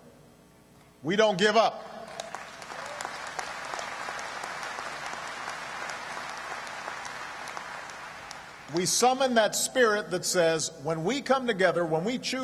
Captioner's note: applause